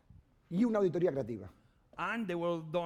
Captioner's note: speaking spanish